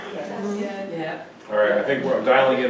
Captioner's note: audience murmurs in agreement